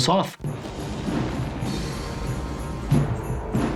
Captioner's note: bomb booming